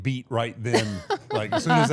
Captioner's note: blue vested woman laughing